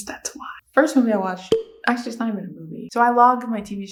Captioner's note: cork popping sfx